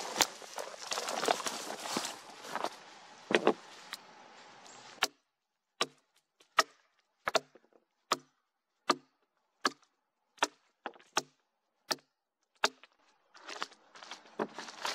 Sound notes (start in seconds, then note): 0.0 leaves and branches crackling, footsteps; 4.7 axe knocking on wood